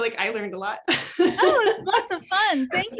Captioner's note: laughing